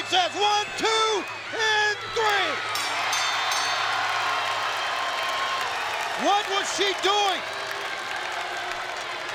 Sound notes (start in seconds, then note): 2.7 bell rings